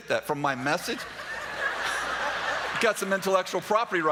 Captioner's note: laughter